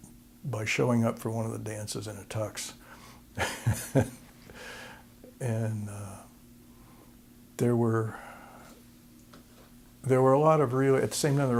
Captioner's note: laughter